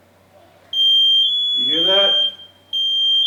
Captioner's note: suit beeping